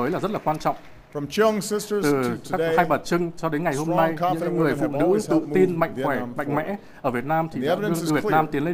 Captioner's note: applause